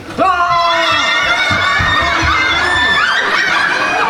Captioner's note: screaming